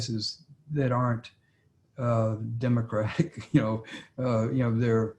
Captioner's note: laughs